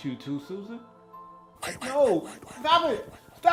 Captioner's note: white whispers